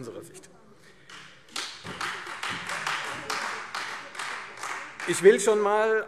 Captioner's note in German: Beifall Freie Demokraten und vereinzelt SPD